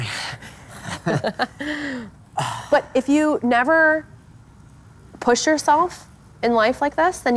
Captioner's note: laughs